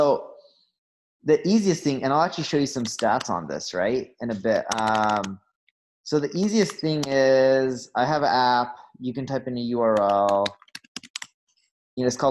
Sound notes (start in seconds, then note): 2.9 keyboard clacking; 9.9 keyboard clacking